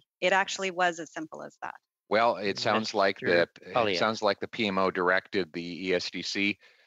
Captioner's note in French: voix de l'interprète